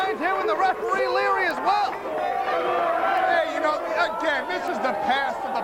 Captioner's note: crowd cheering; crowd chatter